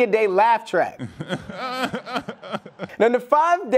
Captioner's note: laughing